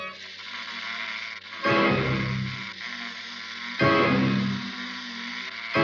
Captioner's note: doll makes a frighting sound